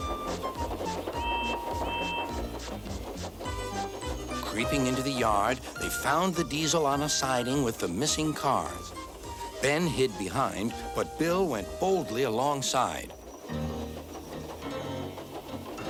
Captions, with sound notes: [toot toot] Creeping into the yard, they found the diesel on a siding with the missing cars. Ben hid behind, but Bill went boldly alongside.